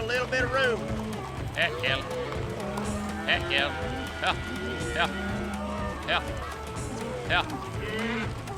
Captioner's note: mooing, prompting cattle